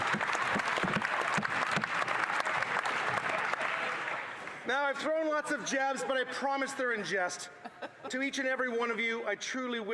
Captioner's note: some Applause